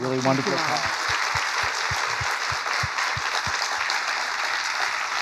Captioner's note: crowd applauding